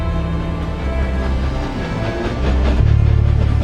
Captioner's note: train whooshing